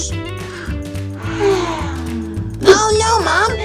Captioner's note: yawns